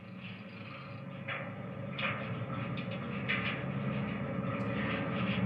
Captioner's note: train clicking on track